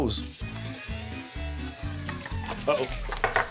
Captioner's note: whirring sound starts, stops abruptly